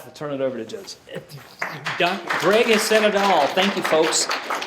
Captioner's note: applause